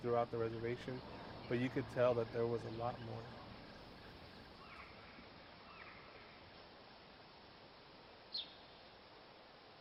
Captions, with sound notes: but you can tell that there was a lot more. (birds chirping)